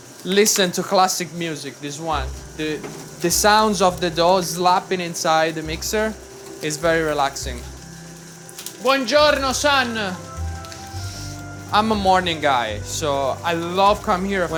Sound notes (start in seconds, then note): 8.8 classical music; 8.8 speaks in Italian